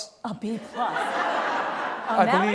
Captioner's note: laughter